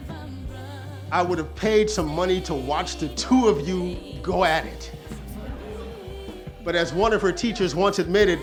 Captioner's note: audience laughs